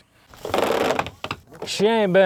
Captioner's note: fence creaking